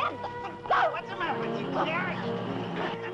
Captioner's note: shouting